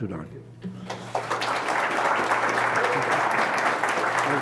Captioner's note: applause